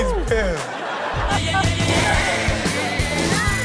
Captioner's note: crowd laughs